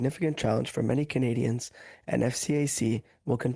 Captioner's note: speaking French